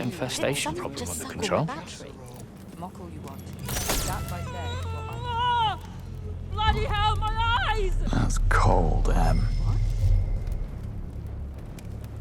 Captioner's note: screaming